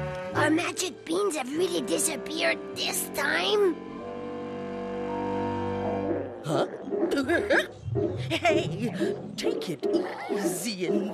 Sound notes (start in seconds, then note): 8.1 giggles